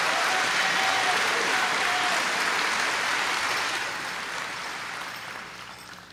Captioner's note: applause